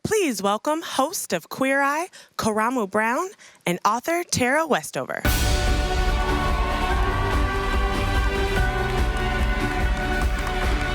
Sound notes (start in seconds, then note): 5.3 applause; 6.7 uplifting music